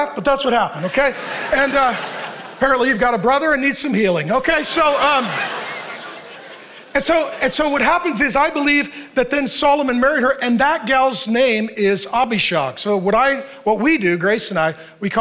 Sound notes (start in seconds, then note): 0.8 congregation laughing; 4.3 congregation laughing